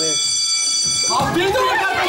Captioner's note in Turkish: İndirim alarmı çalar